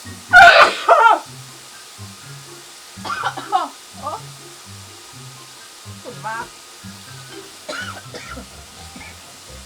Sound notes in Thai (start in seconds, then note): 0.3 เสียงจามแบบรุนแรง เพราะฉุนมาก; 3.0 เสียงไอค่อกๆแคกๆ โอ๊ย!